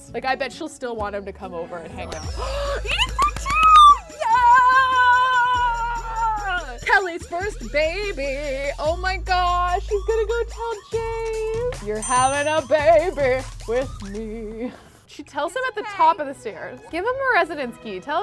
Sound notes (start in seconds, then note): 2.3 gasps; 3.2 cheering